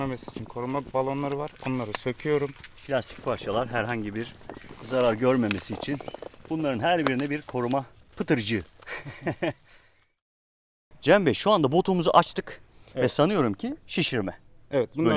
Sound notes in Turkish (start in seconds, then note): 8.8 gülüşmeler